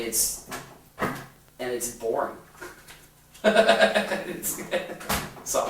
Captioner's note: laughs